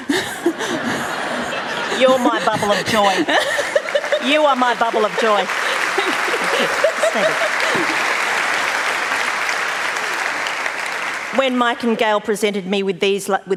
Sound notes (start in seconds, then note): 3.2 laughter; 6.1 applause